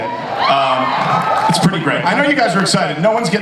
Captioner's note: audience cheers